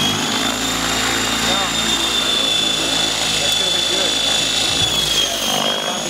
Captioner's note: rotor noise